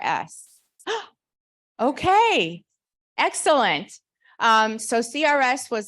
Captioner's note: gasps